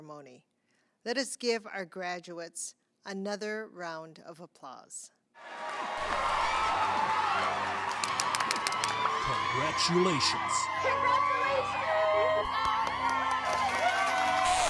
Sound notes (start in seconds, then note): 5.4 applause